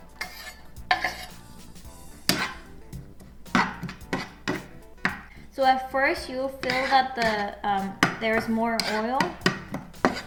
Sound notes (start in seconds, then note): 0.0 more chopping; 1.6 frying